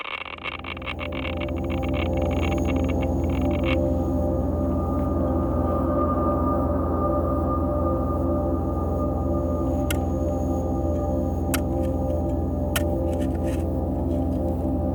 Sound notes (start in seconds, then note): 0.2 suspenseful music; 9.9 shovel scraping